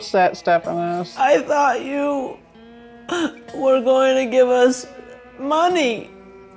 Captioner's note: crying